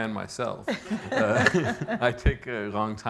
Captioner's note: laughing